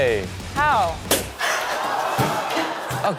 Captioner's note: crowd laughing; balloon pops